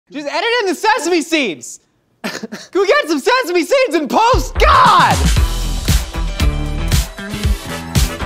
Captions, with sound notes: - Just edit in the sesame seeds! - (laughs) - Go get some sesame seeds in post, God! (Jazzy music)